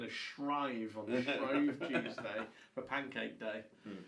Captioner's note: laughs